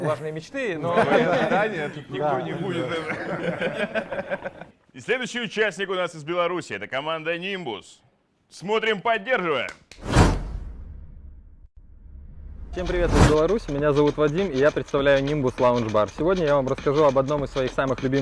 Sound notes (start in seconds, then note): 0.8 laughter; 10.4 applause